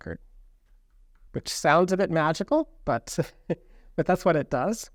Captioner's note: chuckles